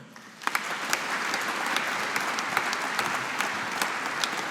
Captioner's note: audience applauding